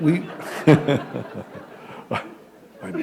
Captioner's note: laughter